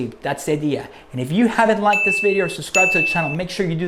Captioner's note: beep